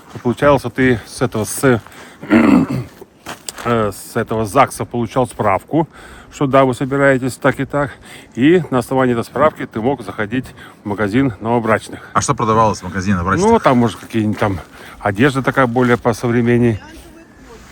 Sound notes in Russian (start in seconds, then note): 2.2 кашель; 2.2 откашливается